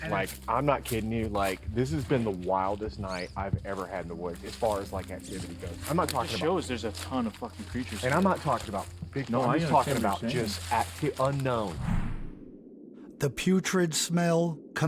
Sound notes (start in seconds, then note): 11.6 air whooshing; 12.0 wind blowing